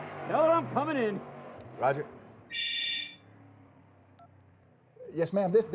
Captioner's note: cell phone rings, beeps